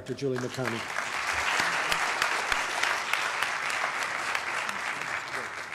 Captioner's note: applause